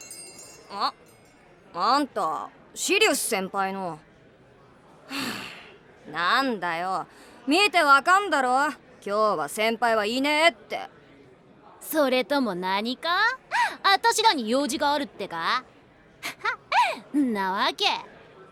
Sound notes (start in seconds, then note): 5.0 sigh